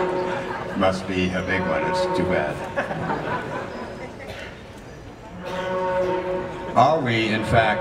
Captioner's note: laughter